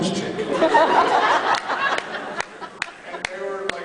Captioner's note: laughs